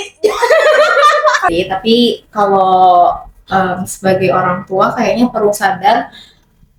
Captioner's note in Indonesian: tertawa